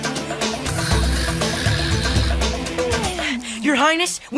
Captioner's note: snoring